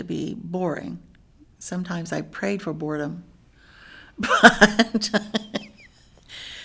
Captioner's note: laughs